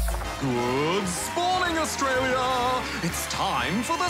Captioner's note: cheering, applause